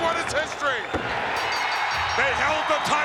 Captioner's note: crowd cheering